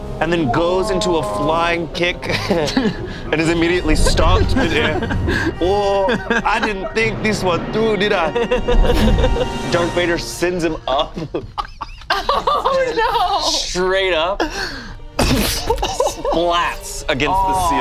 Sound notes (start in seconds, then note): 8.2 laughs; 10.6 group laughs